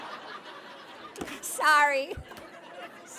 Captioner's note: laughter